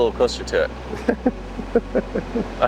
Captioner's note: laughing